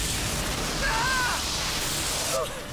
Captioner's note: lighning crashes and crackles